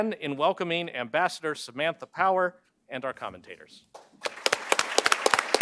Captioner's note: applause